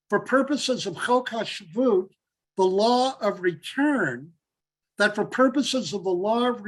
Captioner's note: Hebrew